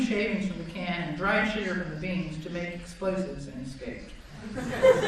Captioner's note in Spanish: Risas